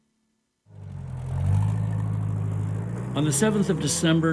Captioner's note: engine rumbling